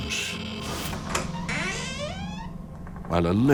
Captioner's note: door creaking